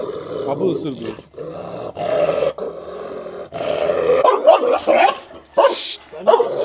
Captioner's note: growling and barking sounds